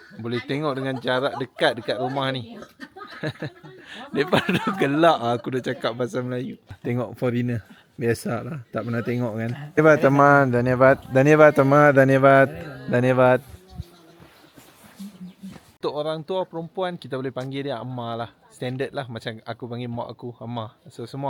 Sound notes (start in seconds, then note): 3.3 laugh; 9.8 speaking Nepali